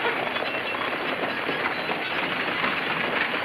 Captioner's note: horses galloping